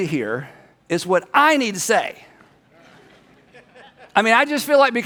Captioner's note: people laugh